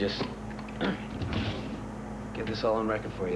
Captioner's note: clears throat